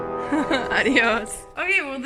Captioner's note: laughing